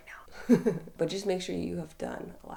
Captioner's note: laughing